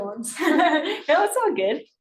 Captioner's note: laughs